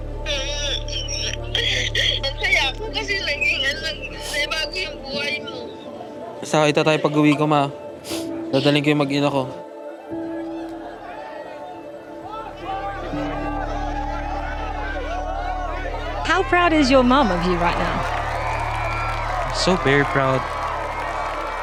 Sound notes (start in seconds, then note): 0.2 sobbing; 8.0 sniffles; 9.9 crowd cheering; 18.6 crowd cheering, applauding